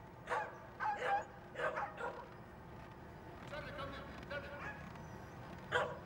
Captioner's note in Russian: Лай собаки